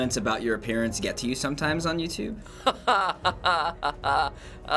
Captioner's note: laughs smugly